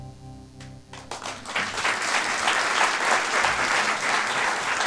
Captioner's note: applause